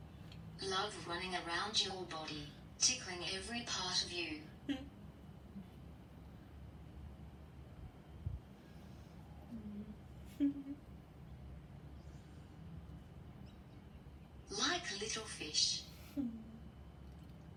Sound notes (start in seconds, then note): 8.2 laughs